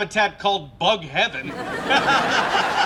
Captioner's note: laughs